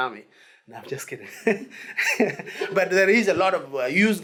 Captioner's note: laughs